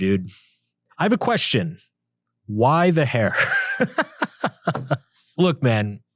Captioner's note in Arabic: يضحك